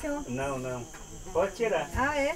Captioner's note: speaking foreign language